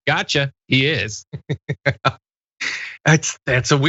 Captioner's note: laugh